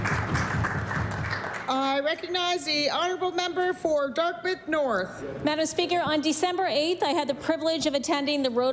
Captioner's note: applause